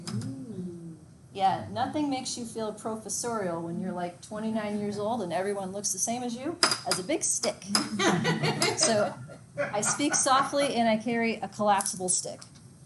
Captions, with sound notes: Yeah, nothing makes you feel professorial when you're 29 years old and everyone looks the same as you as a big stick. (students laugh) So I speak softly and I carry a collapsible stick.